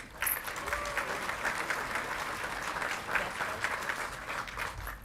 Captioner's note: audience clapping and cheering